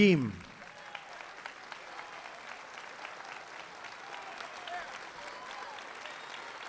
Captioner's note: applause